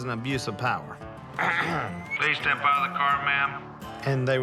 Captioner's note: clears throat